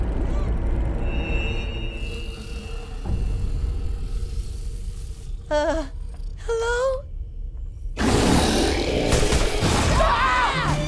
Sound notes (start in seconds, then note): 8.0 snarling; 9.6 screaming